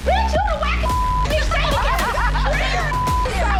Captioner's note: beep